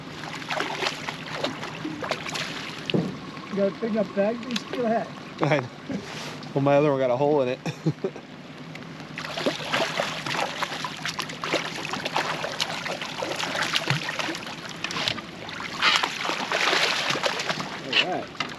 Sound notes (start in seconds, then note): 7.1 fish splashing; 10.9 fish splashing